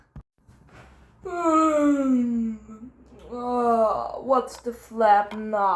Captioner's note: tired noises